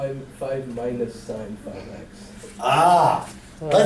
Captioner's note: voiceover